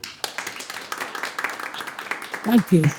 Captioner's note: audience applauding